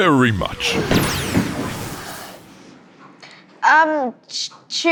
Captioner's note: portal opening